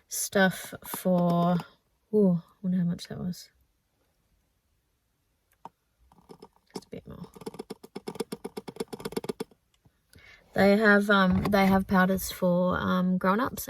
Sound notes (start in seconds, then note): 7.2 tappity tappity tappity tap tap